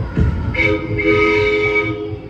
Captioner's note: toot toot